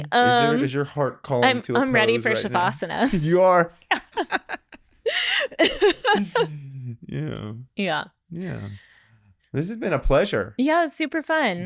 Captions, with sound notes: As soon as your heart called into a pose right now. I'm ready for Shavasana. You are. (laughing) Yeah. Yeah. This has been a pleasure. Yeah, it was super fun.